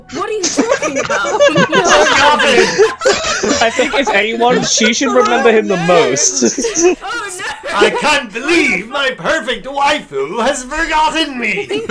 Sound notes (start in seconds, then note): 1.3 laughter; 4.9 laughter; 6.5 laughter; 11.4 laughter